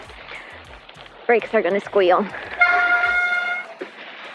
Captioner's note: brakes squeal